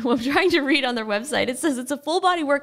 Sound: laughing

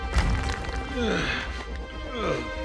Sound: groaning

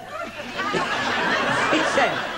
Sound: giggles and laughter

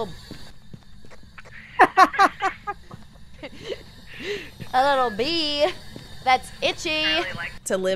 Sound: laugh

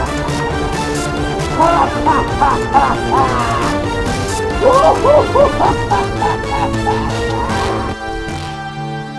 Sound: evil laughter; chaotic Evil Laughter

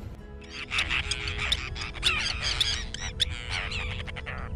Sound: Forster’s tern colony calls

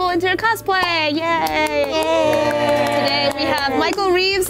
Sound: claps and cheers

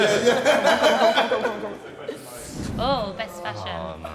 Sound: JJ laughing

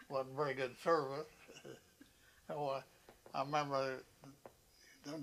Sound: laughs

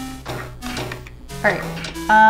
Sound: thwonk

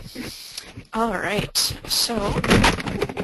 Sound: voiceover

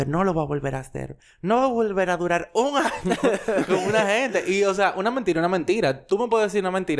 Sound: laughs

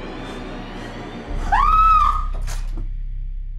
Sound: Sarah screaming

